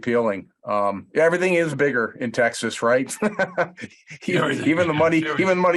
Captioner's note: laughs